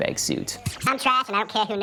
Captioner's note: none